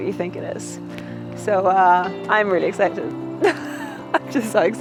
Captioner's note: chuckles